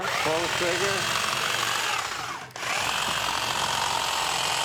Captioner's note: machine whirs